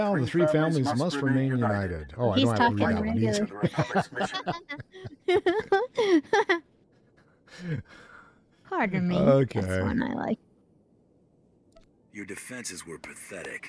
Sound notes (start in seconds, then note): 6.3 laughter